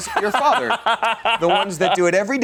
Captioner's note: laughs